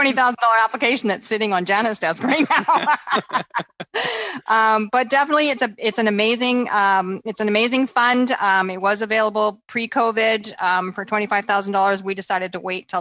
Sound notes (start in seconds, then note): 2.1 laughter